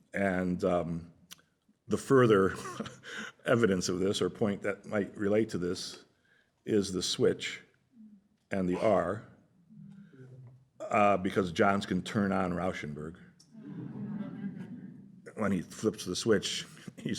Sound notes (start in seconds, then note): 13.5 laughter